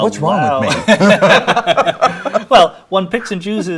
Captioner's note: both laughing